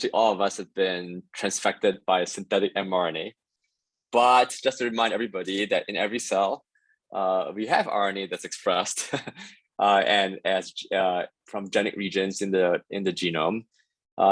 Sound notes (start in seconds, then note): 9.0 laughter